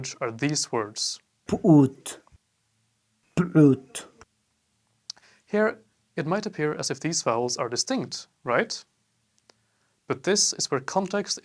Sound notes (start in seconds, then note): 1.3 iraqw speech